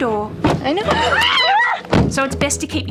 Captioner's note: screams